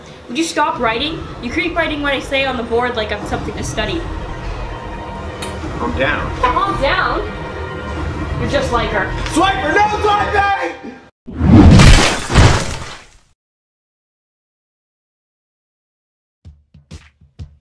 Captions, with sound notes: Would you stop writing? You keep writing what I say on the board like I'm something to study. Calm down... Calm down?! You're just like her. SWIPER NO SWIPING! *Slashing noises*